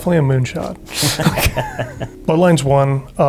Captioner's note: laughter